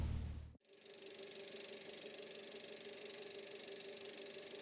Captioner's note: whirring